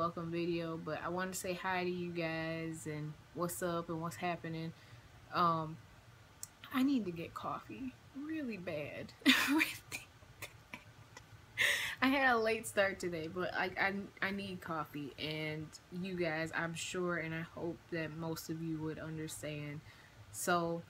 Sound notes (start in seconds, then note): 10.4 laughs